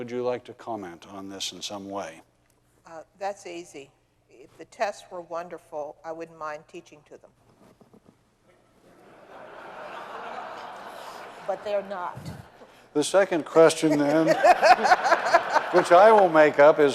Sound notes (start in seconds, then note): 8.9 audience laughing